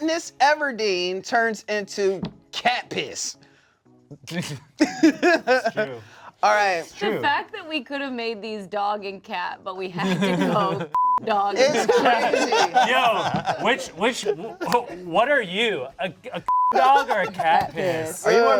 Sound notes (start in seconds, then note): 4.8 laugh; 10.9 beep; 16.5 beep